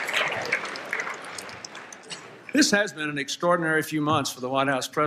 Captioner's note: applause, Laughter